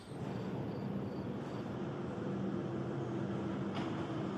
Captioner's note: train rumbling